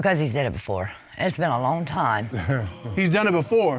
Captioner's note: chuckles